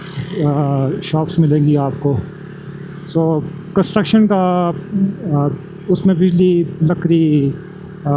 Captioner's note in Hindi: नाक से की जाने वाली आवाज़